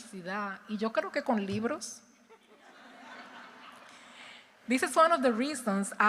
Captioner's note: speaking in Spanish